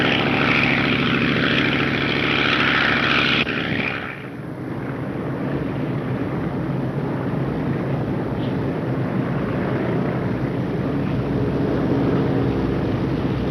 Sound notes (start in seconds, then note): 5.8 plane engines roaring